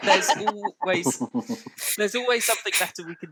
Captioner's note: laughter